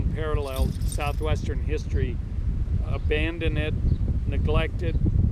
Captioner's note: none